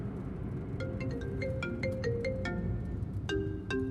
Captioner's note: phone rings